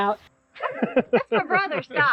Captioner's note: laughing